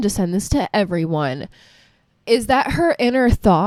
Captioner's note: breathes again